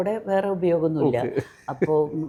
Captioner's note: laughs